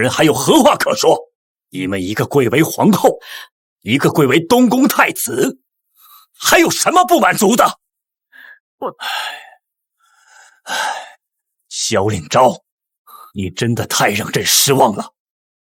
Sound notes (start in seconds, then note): 8.9 sigh